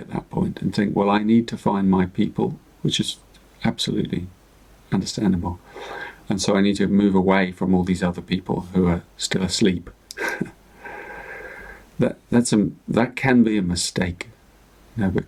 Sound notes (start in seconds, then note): 10.1 chuckles